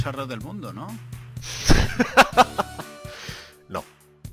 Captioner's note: evil Laugh